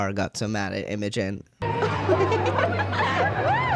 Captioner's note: Imogen laughing